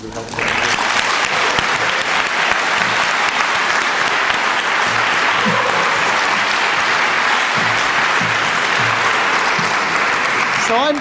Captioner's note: applause